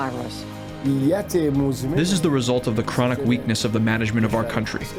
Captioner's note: through translator